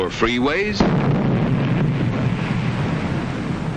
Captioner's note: boom!